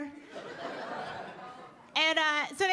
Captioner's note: audience laughing